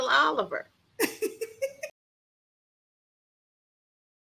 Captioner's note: laughs